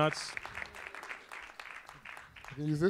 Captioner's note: audience applauds